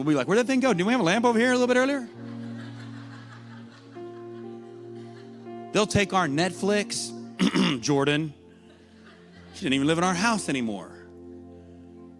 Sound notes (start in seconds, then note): 2.2 laughter; 7.4 clears throat